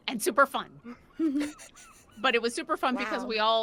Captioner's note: person laughing